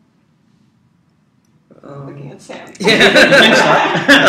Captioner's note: laugh